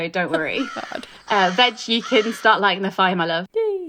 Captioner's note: crow cawing